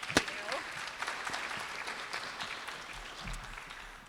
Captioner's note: applause